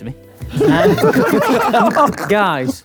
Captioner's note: group laughs